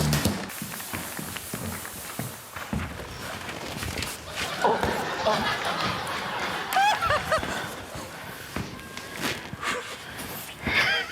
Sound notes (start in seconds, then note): 0.4 fog machine hisses; 4.2 laughter; 6.9 laughs